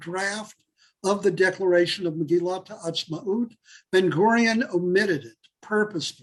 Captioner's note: Hebrew